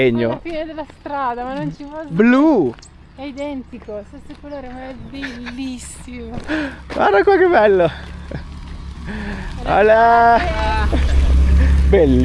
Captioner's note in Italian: risate